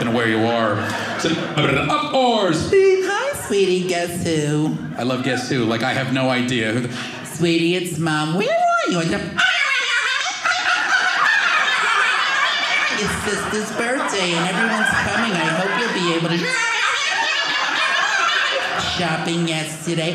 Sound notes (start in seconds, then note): 2.4 beep; 8.8 fast forwarding sound; 16.6 fast forwarding voice